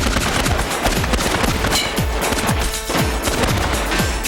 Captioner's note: guns fire